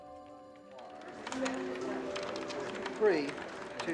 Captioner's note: people chattering